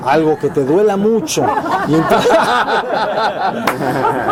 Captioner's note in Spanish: risas